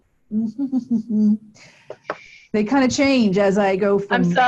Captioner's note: chuckles